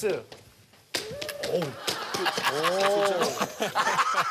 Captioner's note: skillful tap dance